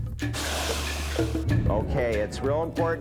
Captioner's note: <i> hissing</i>